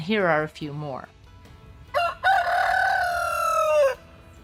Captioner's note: rooster crows